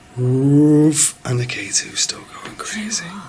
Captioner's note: groans